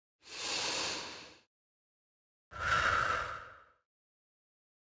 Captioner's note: deep inhale and exhale